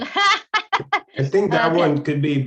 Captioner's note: chuckles